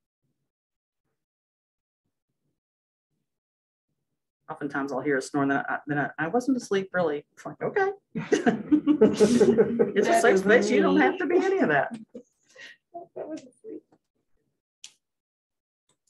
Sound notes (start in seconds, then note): 8.1 laughter